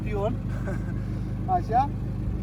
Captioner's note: laughing